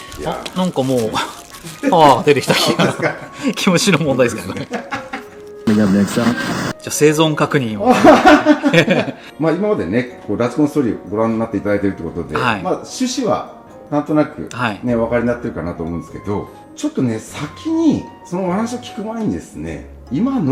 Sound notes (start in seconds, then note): 3.2 laughs; 9.2 laughs